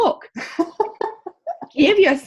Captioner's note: laughing